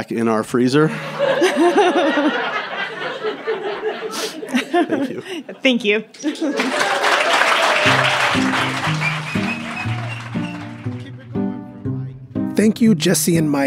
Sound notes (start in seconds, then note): 0.9 laughter; 6.5 applause